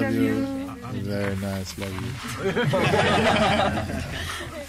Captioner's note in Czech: smích